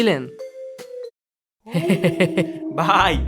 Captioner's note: laughing